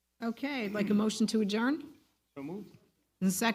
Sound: none

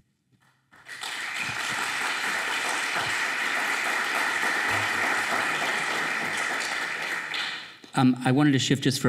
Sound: applause

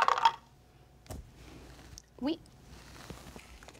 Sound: dice rattle

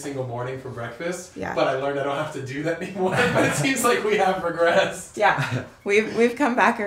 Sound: laughter

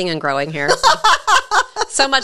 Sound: laughs

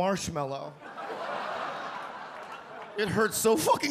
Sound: audience laugh

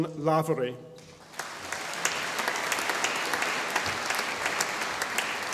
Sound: audience applauding

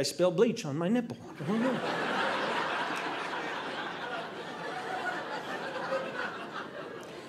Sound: audience laughing

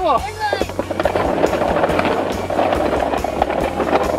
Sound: plastic scraping

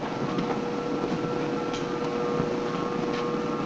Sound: lift whirring

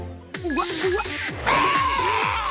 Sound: squawking

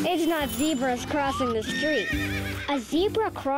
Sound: whinnying

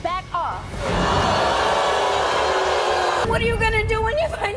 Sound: crowd jeers

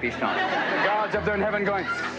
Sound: laughter

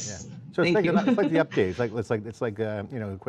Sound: laughs

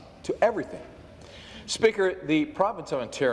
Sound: none

